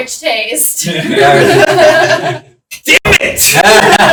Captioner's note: laughing